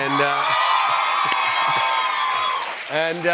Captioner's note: cheers and applause